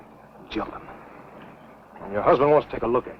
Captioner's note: whispering